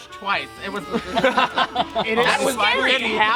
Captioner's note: laughter